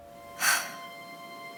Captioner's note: Lisa Sighs